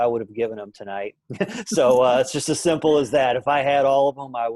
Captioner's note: laughing